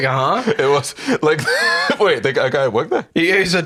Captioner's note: laughs